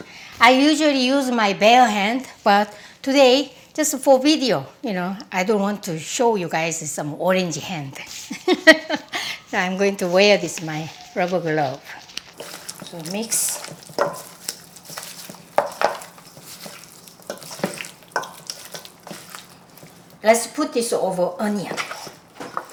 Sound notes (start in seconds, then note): 8.2 laughs